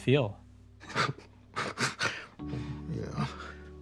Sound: both chuckle

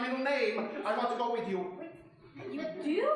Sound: audience chuckling

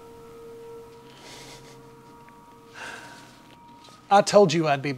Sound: Walden laughing

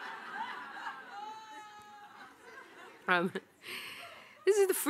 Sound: audience laughing

